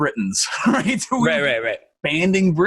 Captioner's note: laughing